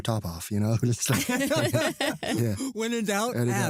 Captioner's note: laughter